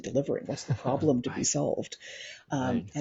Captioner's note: laughs